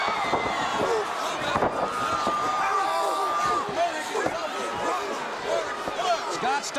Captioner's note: crowd cheering